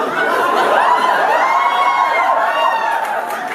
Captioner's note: audience laughs and cheers